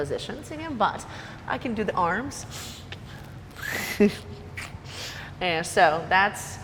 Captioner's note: laughs